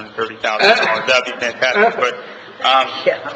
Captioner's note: laughing